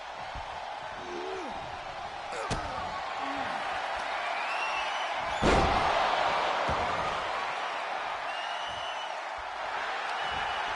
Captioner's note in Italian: urlo